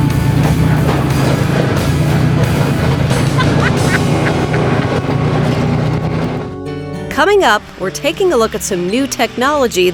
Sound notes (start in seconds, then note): 3.2 laughing